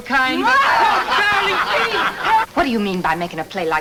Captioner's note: angry wife shouts